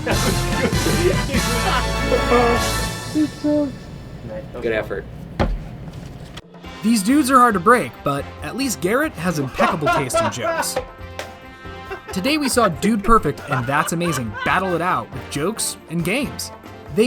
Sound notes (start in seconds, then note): 1.5 laughs